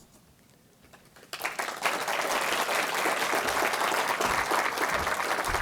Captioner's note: audience applauding